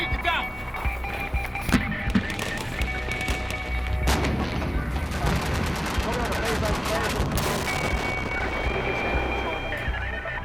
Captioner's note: gunfire and explosions